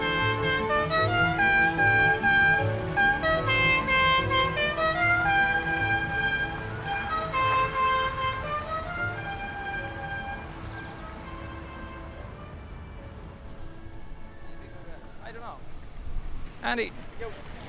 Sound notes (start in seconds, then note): 0.0 subtle music; 0.3 horn honking; 4.2 horn honking